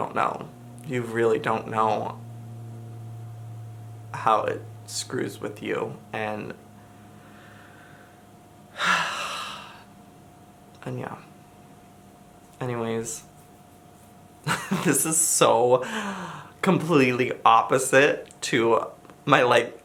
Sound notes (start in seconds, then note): 8.7 sighs